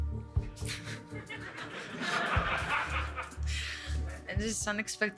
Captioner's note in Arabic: يضحك المراسلون